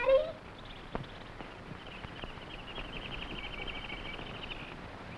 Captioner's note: animals chattering